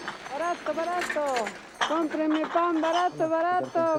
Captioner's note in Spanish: Audio hablado en quechua